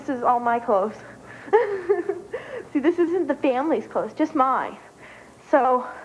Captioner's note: giggles